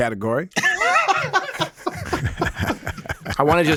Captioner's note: Dean laughs